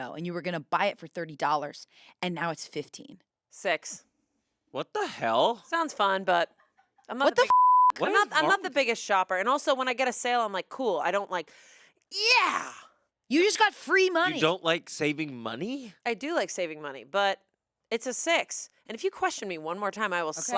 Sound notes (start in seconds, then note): 7.4 beep